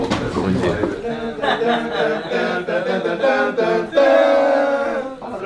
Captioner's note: Simulating a Brazilian news’ jingle